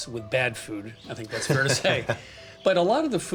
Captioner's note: chuckles